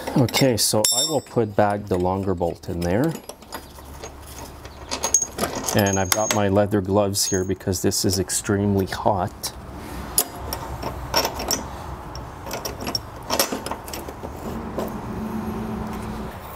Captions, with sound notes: Okay, so I will put back the longer bolt in there. And I've got my leather gloves here because this is extremely hot. (bolt clanging)